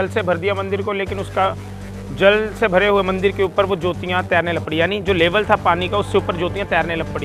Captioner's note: flames